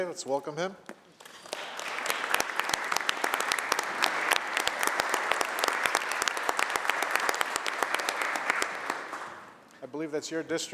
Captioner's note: applause